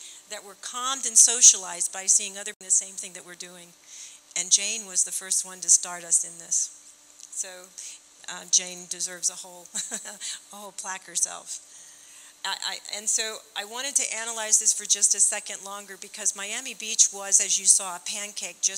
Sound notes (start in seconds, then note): 9.7 chuckling